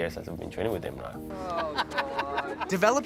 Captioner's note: laughter